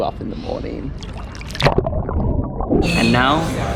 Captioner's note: water bubbling